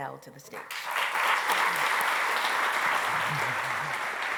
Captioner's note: applause